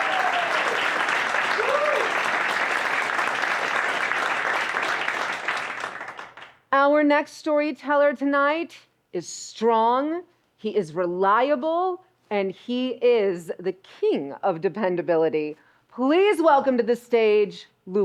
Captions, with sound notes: (audience applauding) Our next storyteller tonight is strong, he is reliable, and he is the king of dependability. Please welcome to the stage, Luis.